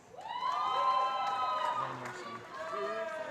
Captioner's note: cheering